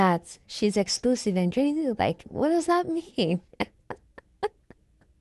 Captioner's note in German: Haha!